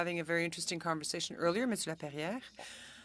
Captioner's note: speaking French